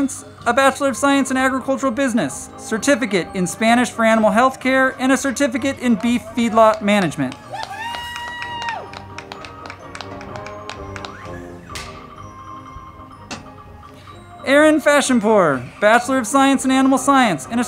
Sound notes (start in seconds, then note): 7.7 crowd clapping and cheering; 9.0 band music